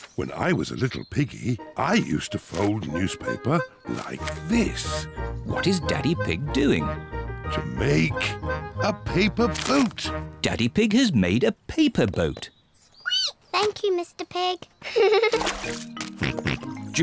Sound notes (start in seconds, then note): 13.1 squeaks; 14.8 giggles; 15.0 snorts